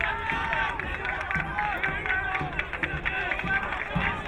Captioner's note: crowd cheering